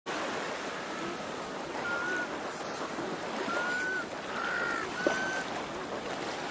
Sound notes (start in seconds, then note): 0.1 waves lap; 2.2 birds call